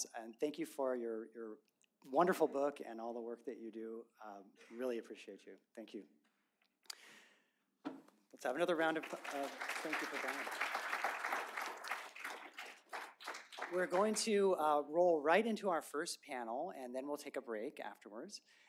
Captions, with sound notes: and thank you for your wonderful book and all the work that you do. Really appreciate you. Thank you. [APPLAUSE] We're going to roll right into our first panel, and then we'll take a break afterwards.